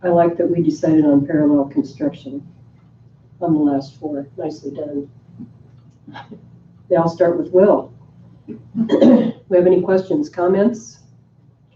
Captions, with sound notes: - I like that we decided on parallel construction on the last four, nicely done. (chuckles) They all start with "Will" Do we have any questions, comments?